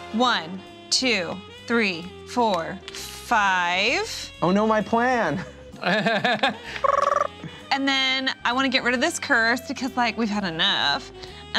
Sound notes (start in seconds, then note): 5.3 laughs